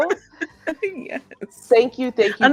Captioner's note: laughing